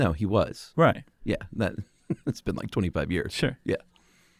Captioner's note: laughs